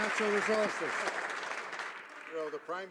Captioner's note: some Applause